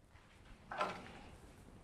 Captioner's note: clattering